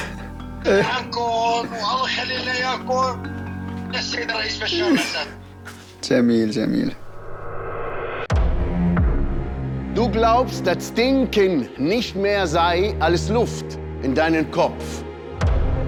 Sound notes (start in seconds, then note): 9.6 in German